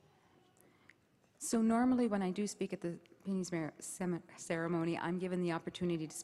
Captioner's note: stammering